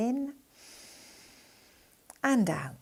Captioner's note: breathing gently